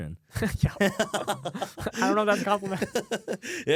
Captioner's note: laughs